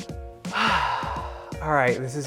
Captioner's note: sighs